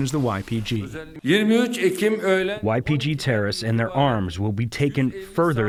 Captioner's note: through translator